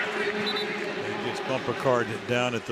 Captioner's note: whistle blows